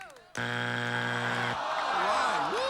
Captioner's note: buzzer